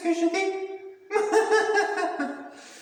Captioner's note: laughs